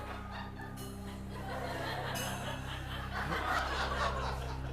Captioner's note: laughter